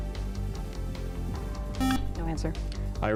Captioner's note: buzzer